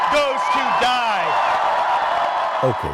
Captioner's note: crowd cheering